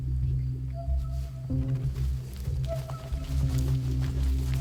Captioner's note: shoes and clothes rustling